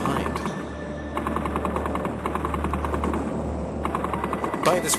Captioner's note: guns blasting